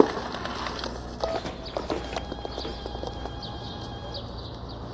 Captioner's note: cell phone ringing